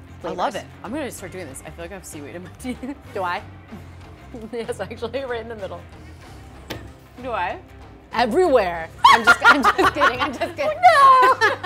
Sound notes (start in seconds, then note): 9.0 both laughs